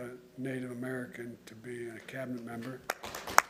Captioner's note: applause